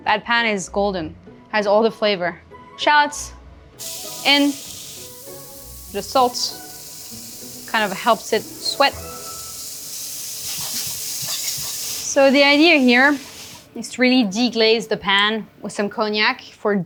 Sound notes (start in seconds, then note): 9.4 shallots sizzling